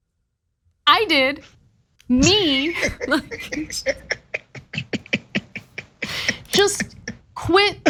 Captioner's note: laugh